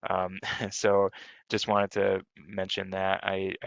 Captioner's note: chuckles